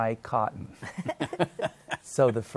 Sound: both laugh

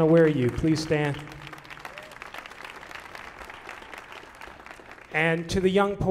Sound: audience applauding

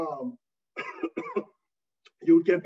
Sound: coughing

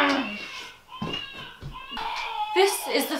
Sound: crying continues in background

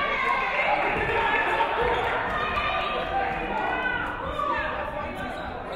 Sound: audience cheering; audience clapping

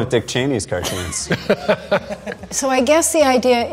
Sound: laughing

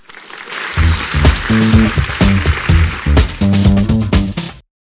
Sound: audience applauds; upbeat music

